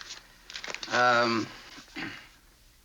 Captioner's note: clears throat